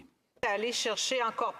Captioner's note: speaking French